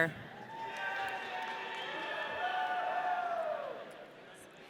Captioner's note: audience cheering